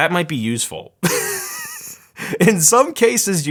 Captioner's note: laughing